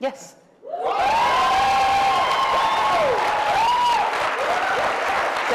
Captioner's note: cheering